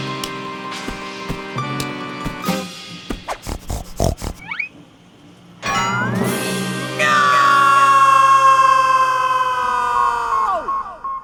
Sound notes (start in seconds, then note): 3.2 snorts like a pig; 9.6 satellite beeps